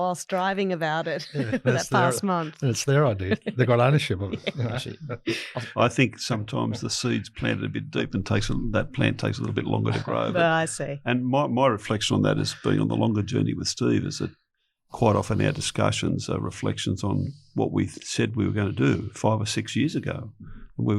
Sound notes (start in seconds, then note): 4.3 laughs